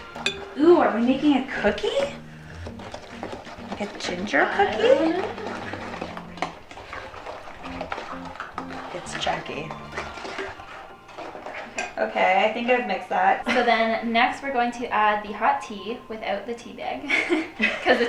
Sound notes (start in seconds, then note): 10.0 utensils clanging; 17.0 laughing